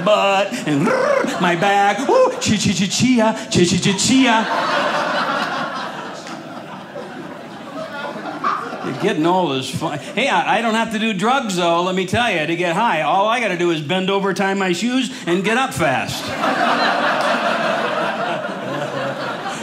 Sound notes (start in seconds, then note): 4.8 audience laughing; 16.1 audience laughing